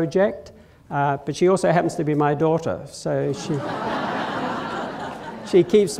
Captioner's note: laughter